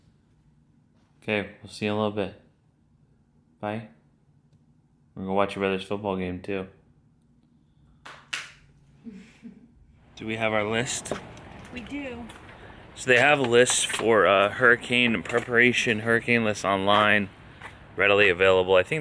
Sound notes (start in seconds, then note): 8.0 clapping; 9.0 slight laugh